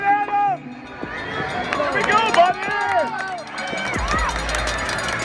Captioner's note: crowd clapping